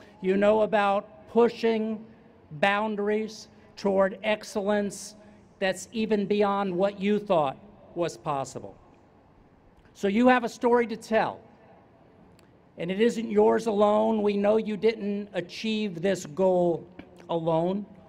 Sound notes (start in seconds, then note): none